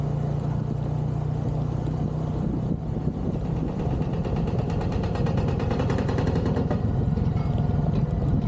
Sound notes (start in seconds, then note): 0.0 engine noise; 3.5 loud banging